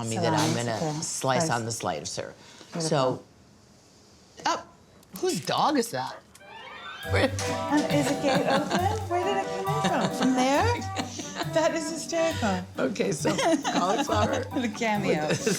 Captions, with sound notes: -Salami, okay. Slice. -I’m going to slice on the slicer. Who’s dog is that? [laughs] -Is the gate open? Where did it come in from? From there? That is hysterical. [laughs] -Cauliflower- -The cameo.